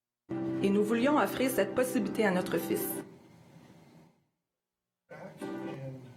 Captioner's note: speaking in foreign language